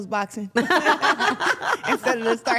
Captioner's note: everyone laughs